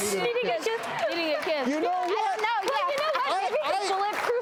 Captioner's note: audience clapping